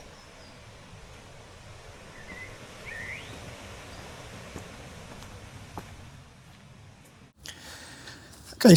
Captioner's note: birds chirping